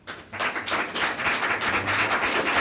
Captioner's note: applause